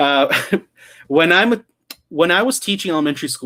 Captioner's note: laughing